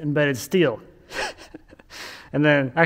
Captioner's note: laughing